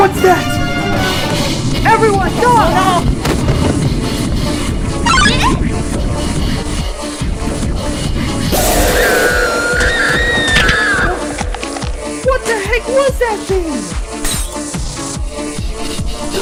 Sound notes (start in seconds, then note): 9.2 Becky Screams in Agony